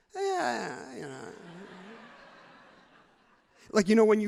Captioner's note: crowd laughs loudly